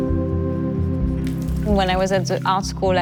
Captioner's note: water dripping